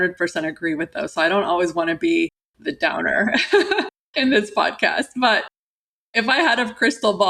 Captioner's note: laughter